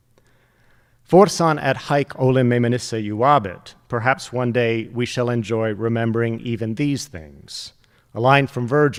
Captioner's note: speaking Latin